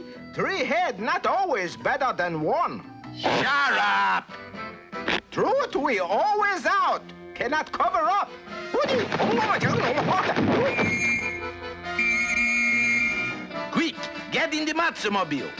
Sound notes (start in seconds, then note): 11.9 Inspector blowing whistle